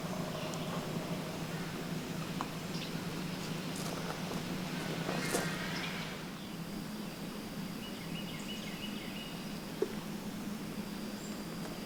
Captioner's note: birds singing with wind noise